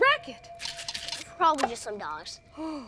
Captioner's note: can rattling